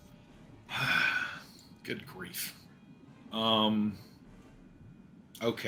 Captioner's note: sighs